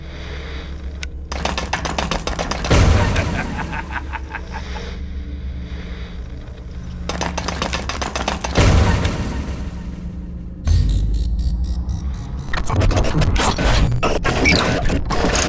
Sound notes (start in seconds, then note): 2.1 pirate laughing